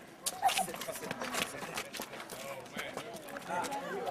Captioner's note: speaking softly